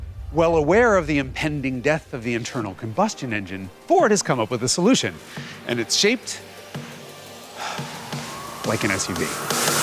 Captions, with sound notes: Well aware of the impending death of the internal combustion engine, Ford has come up with a solution. And it's shaped... (sigh) like an SUV.